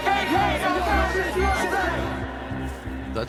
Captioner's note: protest chatter